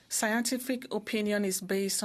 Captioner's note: speaking in French